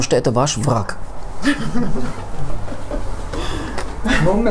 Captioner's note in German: Lachen